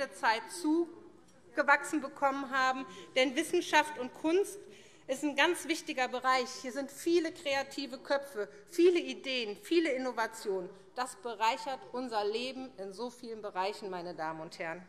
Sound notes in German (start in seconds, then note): none